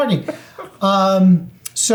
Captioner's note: laughing